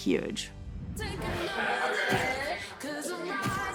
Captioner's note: chatter